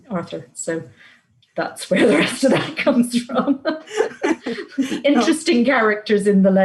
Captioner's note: laughs